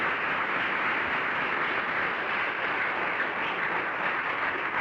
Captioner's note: applause